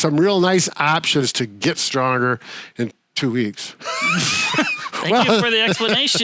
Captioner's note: both laugh